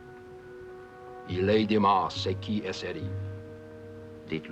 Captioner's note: speaking french